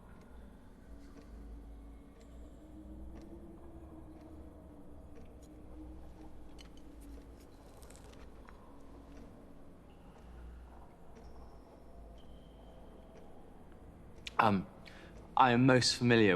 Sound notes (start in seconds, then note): 8.4 soft ghostly wind